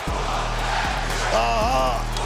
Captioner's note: crowd chants